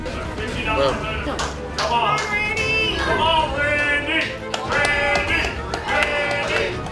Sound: crowd

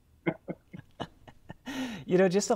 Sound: Dan and Paterson laugh

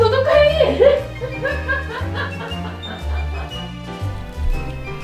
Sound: laugh

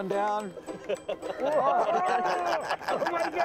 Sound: they laugh

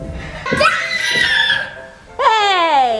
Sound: little boy screams

